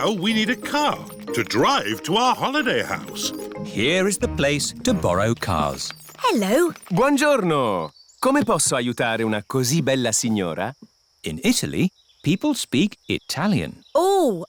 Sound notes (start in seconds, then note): 8.3 speaks italian